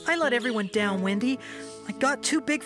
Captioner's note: none